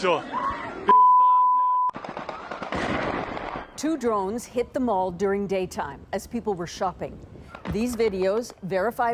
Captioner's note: explosion